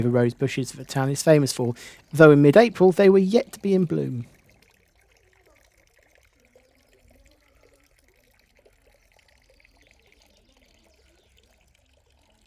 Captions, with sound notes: the rose bushes that the town is famous for, though in mid-April they were yet to be in bloom. [SOUND OF THE FOUNTAIN]